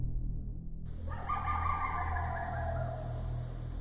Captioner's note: creature barking; fog hissing